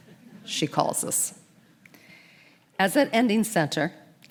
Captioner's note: audience chuckles